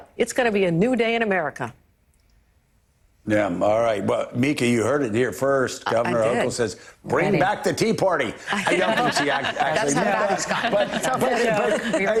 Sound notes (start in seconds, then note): 8.5 panelists laugh